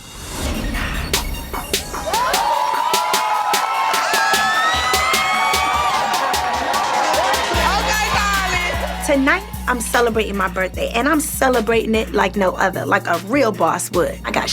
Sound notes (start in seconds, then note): 0.2 hip hop music playing; 2.8 crowd cheering